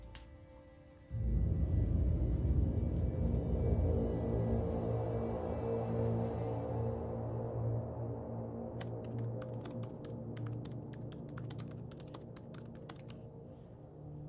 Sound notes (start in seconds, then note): 1.4 tense uneasy music; 8.8 laptop keyboard clicking